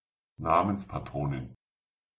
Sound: fast Pronunciation

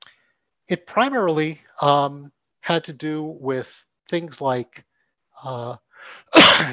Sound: coughs

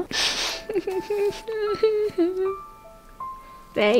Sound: sniffling

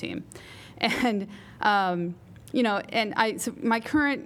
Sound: laughter

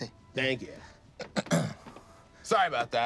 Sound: clears throat

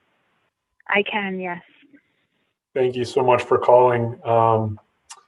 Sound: none

